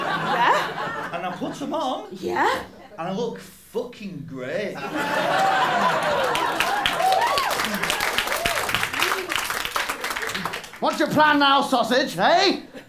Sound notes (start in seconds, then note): 4.8 laughter and applause